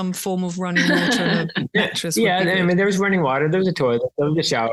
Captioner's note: laughs